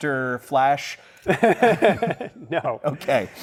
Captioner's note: laughter